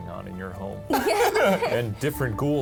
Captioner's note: laughing